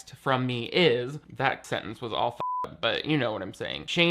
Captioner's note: beep